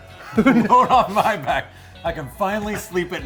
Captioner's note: laughing